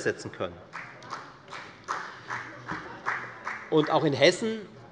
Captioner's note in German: Beifall der Abg